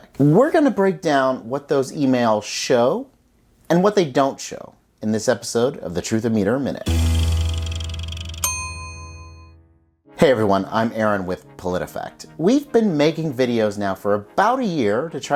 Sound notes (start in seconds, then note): 6.8 guitar tones; 6.9 bell dinging